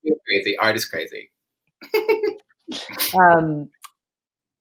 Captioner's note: chuckles